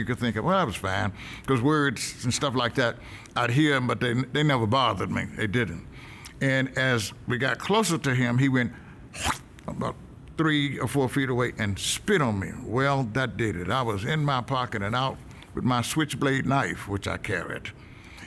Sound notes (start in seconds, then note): 9.1 hawks spit